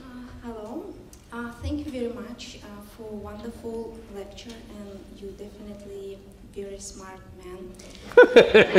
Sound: laughter

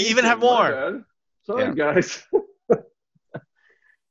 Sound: laughs

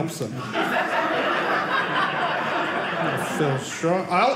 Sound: audience laughing

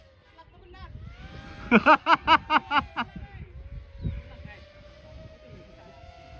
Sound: laughs

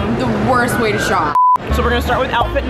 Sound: beeps

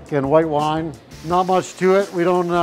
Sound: pan sizzles

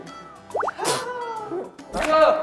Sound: aww

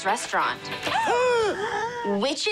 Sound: gasping

